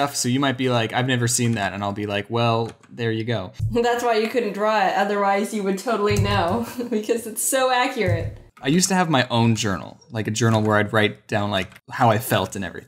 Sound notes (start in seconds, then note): 6.3 laughs